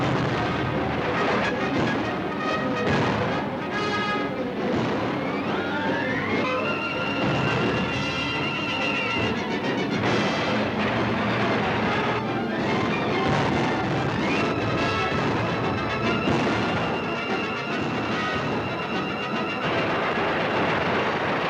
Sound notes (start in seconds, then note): 0.0 explosion booming; 0.0 gun booms; 6.6 bright music; 13.1 explosion booming; 13.1 bright music